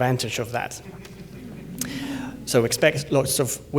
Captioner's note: laughter